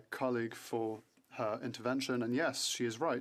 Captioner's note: speaking French